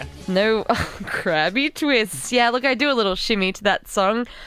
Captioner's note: laughs